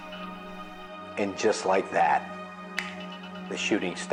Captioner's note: fingers click; suspenseful music continues